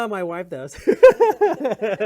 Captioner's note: laughs